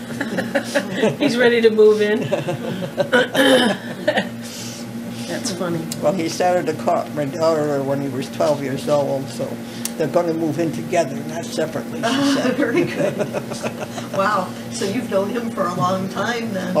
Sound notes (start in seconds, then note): 2.0 laughter; 12.0 laughter